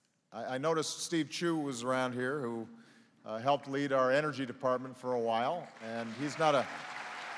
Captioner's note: applause